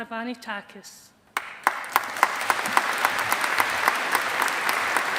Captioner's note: audience applauding